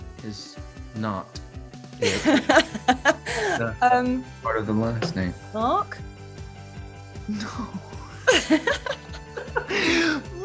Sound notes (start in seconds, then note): 2.0 Daisy laughs; 7.4 both laughing